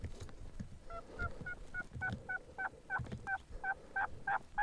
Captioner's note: turkey calling loudly